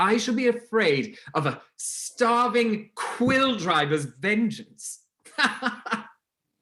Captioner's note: laughing